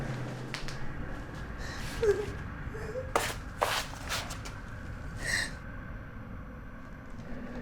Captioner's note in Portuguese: choro